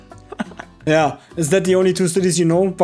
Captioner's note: laughing